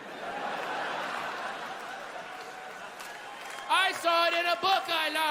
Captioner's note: laughter